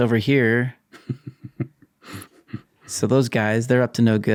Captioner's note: chuckling